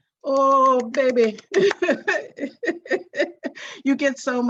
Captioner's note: clapping; laughing